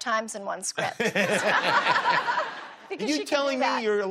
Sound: laughs

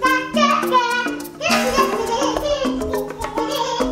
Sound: babbling

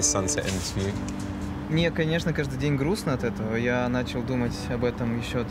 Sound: speaking in foreign language

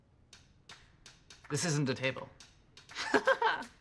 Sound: laughs

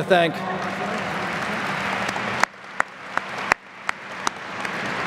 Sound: applause

